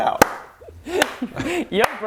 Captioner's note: unearned applause